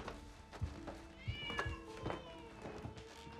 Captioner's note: cat yowls